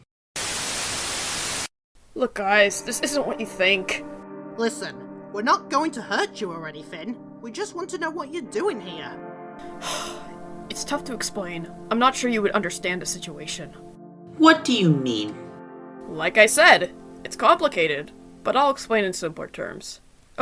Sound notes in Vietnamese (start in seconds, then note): 0.4 TV nhiễu; 9.7 Thở dài